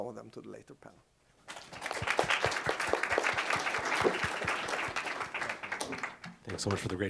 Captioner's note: applause